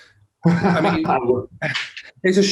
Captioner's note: laughs